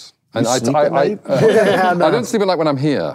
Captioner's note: laughing